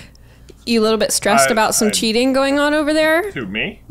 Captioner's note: laughs